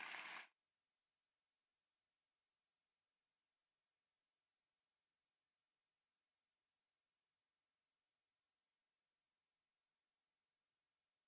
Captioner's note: applause